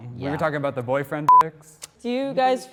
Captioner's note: beep